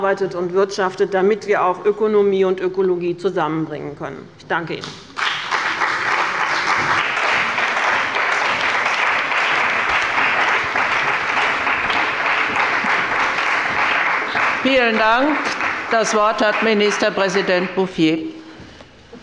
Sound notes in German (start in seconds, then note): 5.1 Beifall bei dem BÜNDNIS 90/ DIE GRÜNEN, der CDU und bei Abgeordneten der SPD